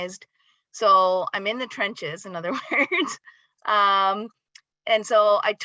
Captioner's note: laughs